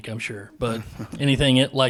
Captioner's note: laughing